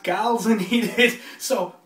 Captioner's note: laughs